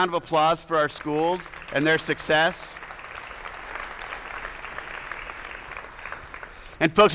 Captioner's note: attendees applauding